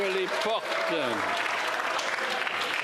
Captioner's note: applause